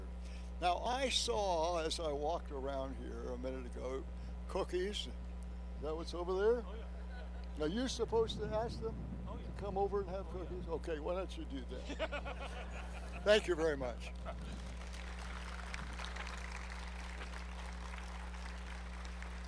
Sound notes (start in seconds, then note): 6.9 laughing; 11.8 laughing; 14.3 applause